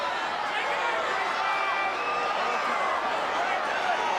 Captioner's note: crowd cheering